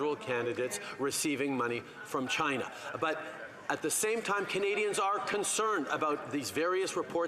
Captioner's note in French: voix de l'interprète